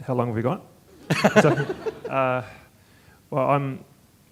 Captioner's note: laughter